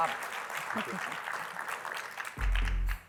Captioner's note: applause